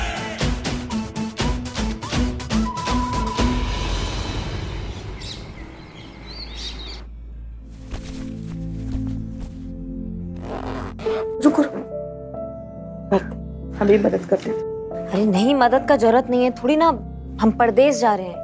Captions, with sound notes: [comical music] [birds chirping] Wait. Sit, I'll help too. I don't need help. I'm not going abroad.